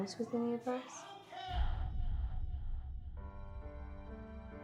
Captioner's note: echoing